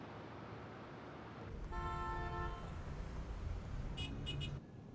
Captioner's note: car horns honking